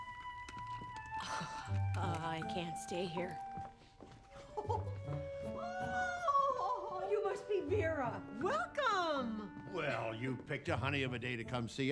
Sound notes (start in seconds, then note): 0.0 scoffs; 4.4 giggles